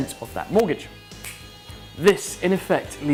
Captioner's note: snaps